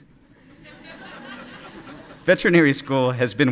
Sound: laughter

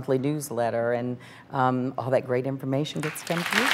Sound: applauding

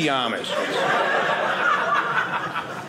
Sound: audience laughing

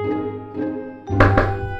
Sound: knocking

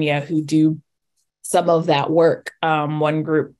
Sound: none

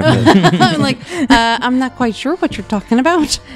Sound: laugh

